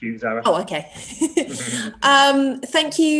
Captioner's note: chuckles